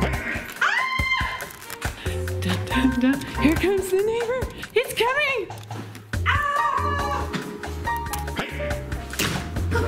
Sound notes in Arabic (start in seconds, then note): 0.6 صراخ; 6.3 يصرخ